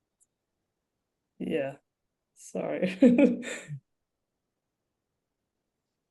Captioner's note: chuckles